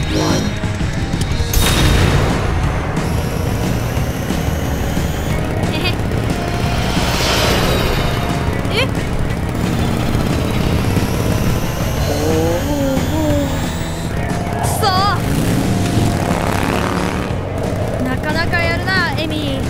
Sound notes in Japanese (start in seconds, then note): 5.7 笑い声